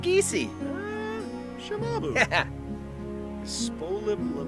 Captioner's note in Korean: 하하!